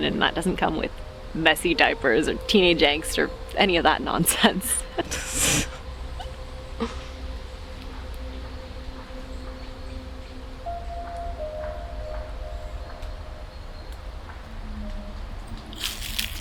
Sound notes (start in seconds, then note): 4.3 both laughing; 14.7 eerie music